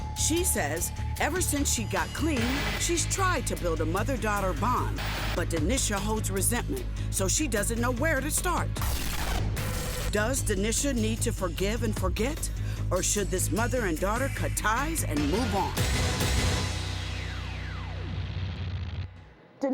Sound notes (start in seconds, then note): 8.9 intense music; 9.6 TV interference buzzing; 16.1 intense music